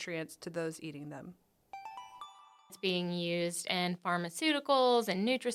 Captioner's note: chime